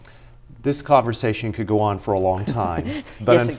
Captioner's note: laughter